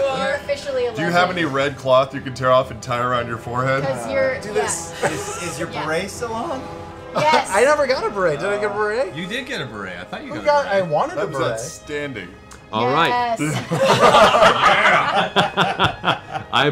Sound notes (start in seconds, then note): 6.6 laughs; 13.4 laughter